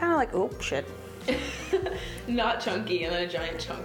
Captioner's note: laughing